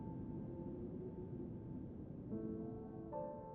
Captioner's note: wind fades